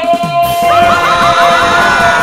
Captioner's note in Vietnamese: mọi người hoảng loạn